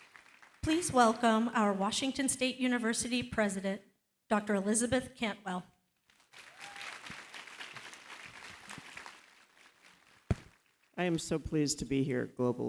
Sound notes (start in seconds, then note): 6.0 applause